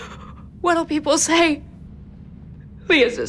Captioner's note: sobbing